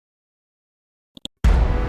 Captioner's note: clicking mouse; dramatic chord